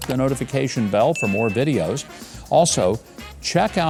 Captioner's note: bell rings